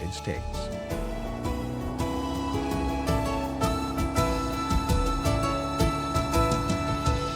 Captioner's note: boat engine; majestic orchestra music